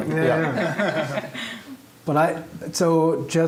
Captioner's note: laughter